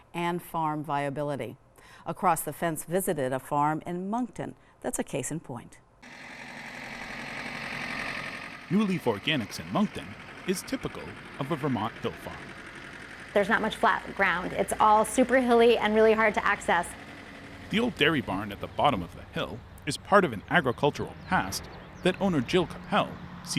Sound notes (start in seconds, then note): 6.2 engine roaring